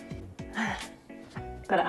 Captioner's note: sigh